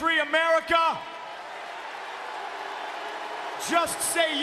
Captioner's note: crowd cheers and boos